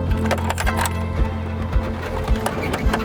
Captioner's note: keys rattling; RV engine humming